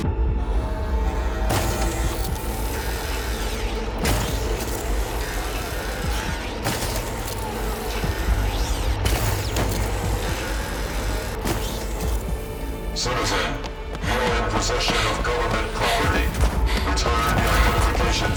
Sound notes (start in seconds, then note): 1.0 robot clanking